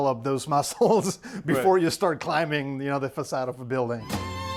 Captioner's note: chuckles